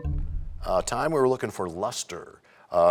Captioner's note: bell chimes, times expires